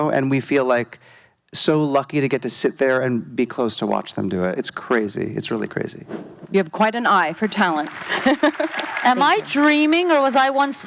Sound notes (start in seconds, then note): 7.4 applause; 8.0 chuckles